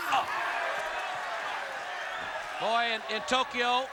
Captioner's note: crowd cheering